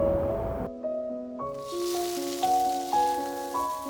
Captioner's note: sizzling